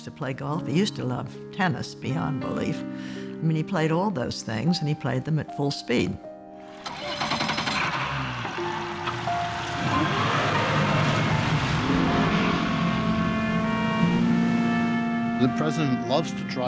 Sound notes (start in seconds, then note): 6.7 engine starting; 8.8 revving